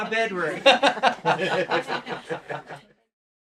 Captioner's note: laughing